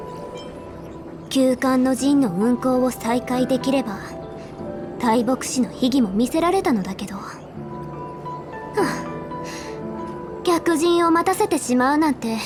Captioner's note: sigh